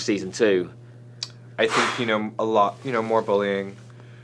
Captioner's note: exhales sharply